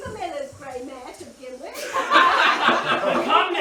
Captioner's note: laughter